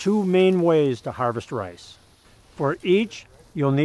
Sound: rustling of rice stalks

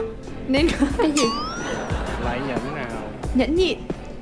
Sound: ring

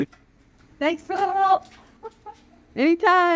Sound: laugh

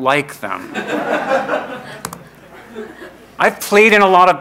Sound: laughing

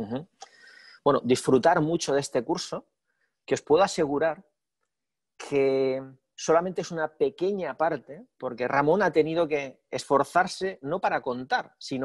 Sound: speaking spanish

